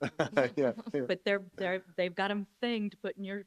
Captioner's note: laughing